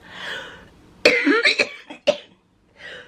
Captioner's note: coughing